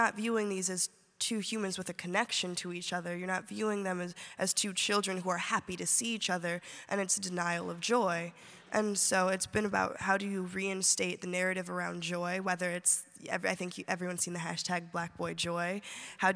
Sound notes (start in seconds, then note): none